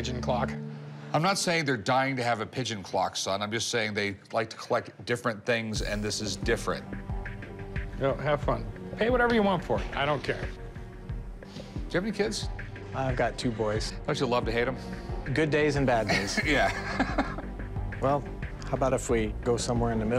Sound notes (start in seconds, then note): 16.0 laughs